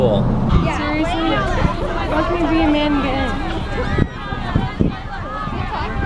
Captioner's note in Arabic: حشد من الناس يتحدثون